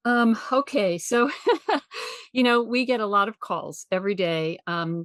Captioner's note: chuckles